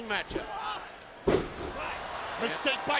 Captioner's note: body slamming